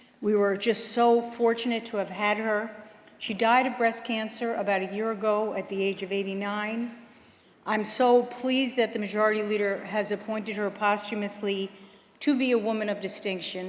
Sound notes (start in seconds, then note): none